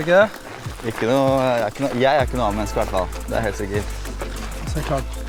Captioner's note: giggle